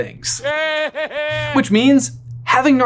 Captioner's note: Voldemort laughs